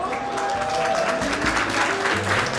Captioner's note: applause